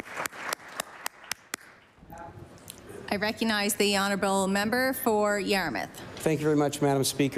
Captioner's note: applause